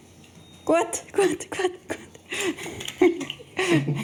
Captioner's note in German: Lachend